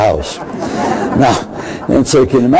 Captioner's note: crowd laughing